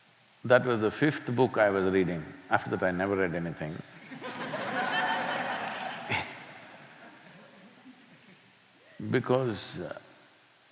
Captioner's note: laughter